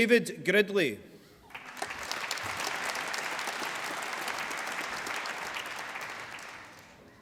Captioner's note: applause